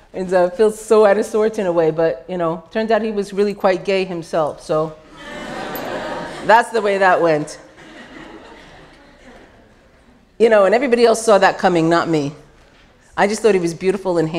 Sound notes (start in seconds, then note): 7.6 laughter